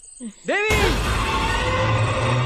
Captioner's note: Subbu Screams